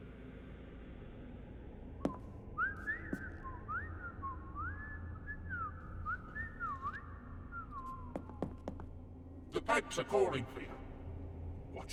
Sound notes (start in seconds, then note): 2.1 leprechaun whistling